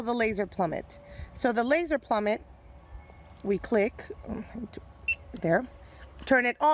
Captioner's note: beeps